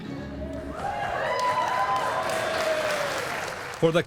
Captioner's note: cheers and applause